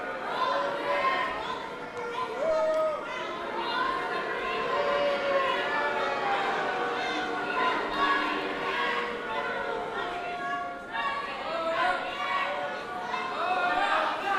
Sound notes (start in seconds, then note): 0.2 audience booing; 9.8 protesters shouting